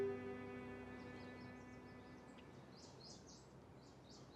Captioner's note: birdsong